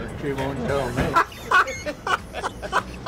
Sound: laughs

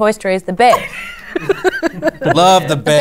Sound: laughs

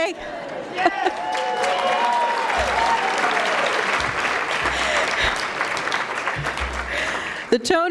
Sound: cheering and Applause

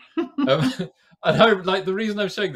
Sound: laughs

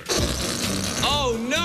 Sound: farting noise

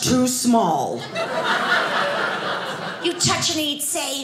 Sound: audience laughing

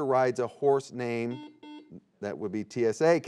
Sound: buzzer beeping

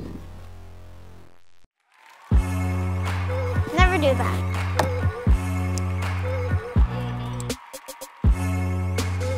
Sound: clapping

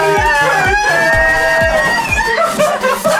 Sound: screaming; laughs

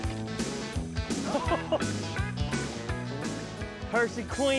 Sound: laughs

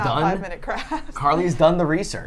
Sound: laughs

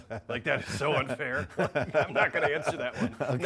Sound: laughing

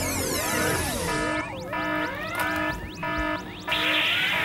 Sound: alarm!

